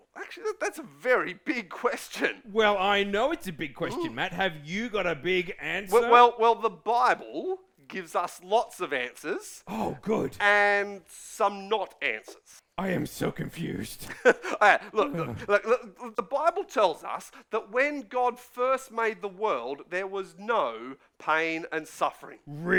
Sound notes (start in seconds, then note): 14.0 chuckles